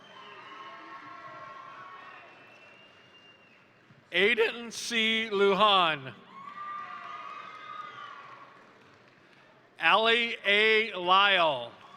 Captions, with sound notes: (crowd cheering) (crowd applauding) Aidan C. Lujan, (crowd cheering) (crowd applauding) Ally A. Lyle,